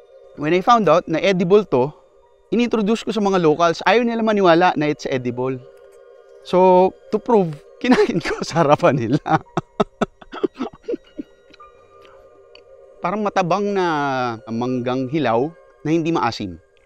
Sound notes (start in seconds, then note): 7.9 laughs